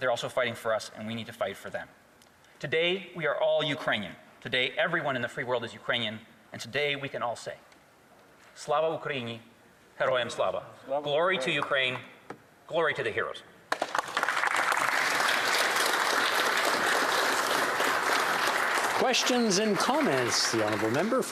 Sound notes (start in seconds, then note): 16.1 speaking Alternate Language; 18.4 applause